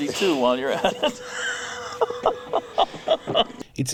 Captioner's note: laughs